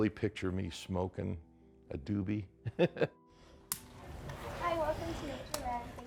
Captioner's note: laughs